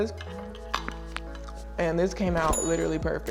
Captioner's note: clicking